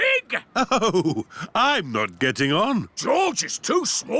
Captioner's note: chuckling